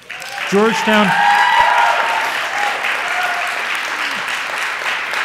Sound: audience applauds

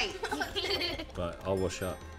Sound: giggles

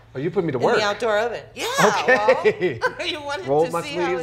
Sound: laughs

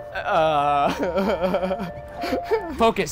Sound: laughing

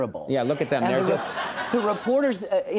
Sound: crowd laughing

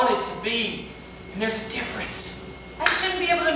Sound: whispering

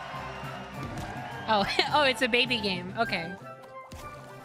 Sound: laugh

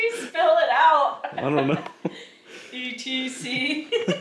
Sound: loud laugh

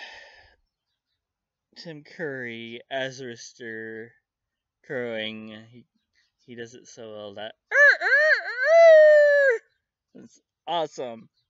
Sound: crowing like a Rooster

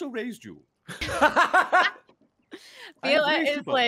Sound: multiple laughing

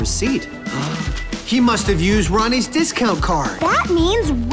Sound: gasps

